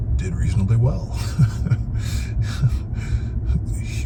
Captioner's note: laughs